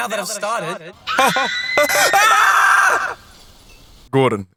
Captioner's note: guy and girl scream as elevator falls